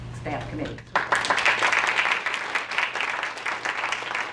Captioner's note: audience applause